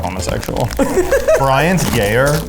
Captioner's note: laughs